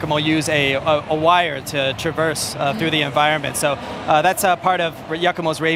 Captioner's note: speaking global language